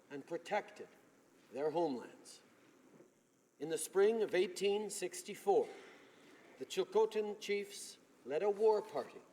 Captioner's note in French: voix de l'interprte